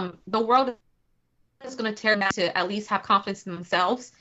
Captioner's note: technical interference